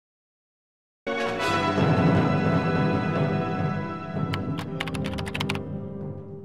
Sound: computer keys clacking

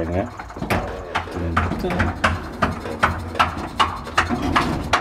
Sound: bangs intensify

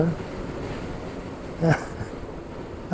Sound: small chuckle

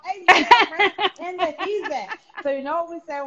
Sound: laughing

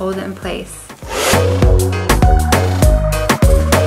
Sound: blow drier roars; upbeat music

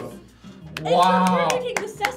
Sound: clapping

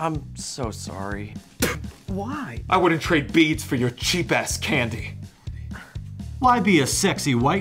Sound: spits

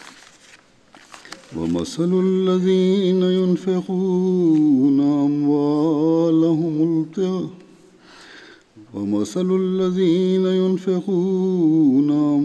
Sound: Arabic - Holy Quran 2:266

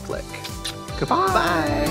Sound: Katya smooches

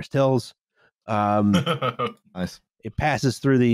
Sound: chuckles

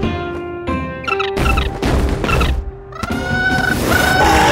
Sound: squawking

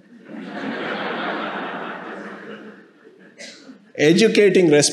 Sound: audience laughing

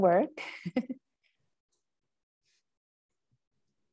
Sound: chuckles

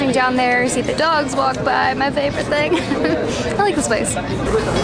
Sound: laughs; cheerful music

